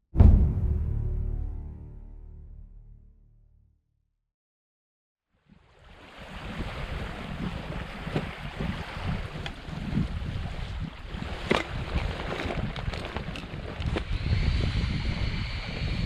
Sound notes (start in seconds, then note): 0.1 thud effect; 5.9 water lapping; 13.9 inflating sounds